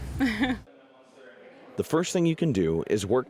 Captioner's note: laughter